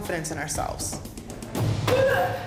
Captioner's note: grunting continues